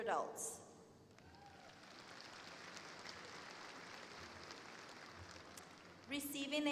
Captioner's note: applause